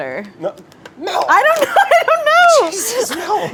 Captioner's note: laughs